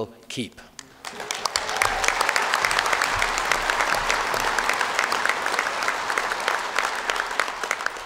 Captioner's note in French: Applaudissements